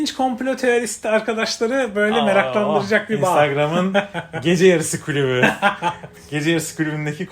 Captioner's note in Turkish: kahkaha